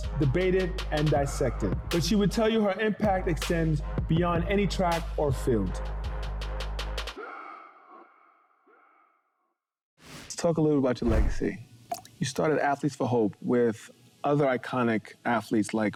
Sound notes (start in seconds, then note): 6.2 hip hop music continues; 9.4 air whooshing; 11.8 waterdrops plinking